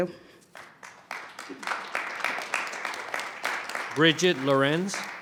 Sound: audience clapping

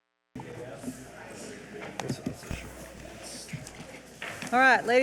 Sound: indistinct chatters

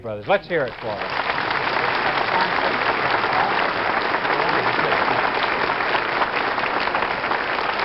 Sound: applause

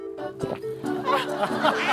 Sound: gulp

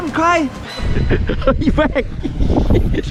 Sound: laughs

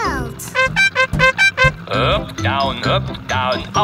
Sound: horn beeping

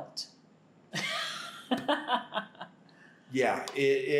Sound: laughter

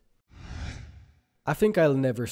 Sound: screen whooshes

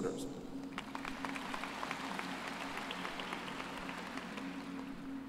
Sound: applause

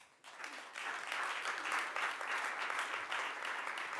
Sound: audience applauds

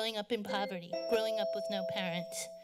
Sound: bell rings

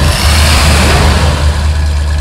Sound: engine revs; slam

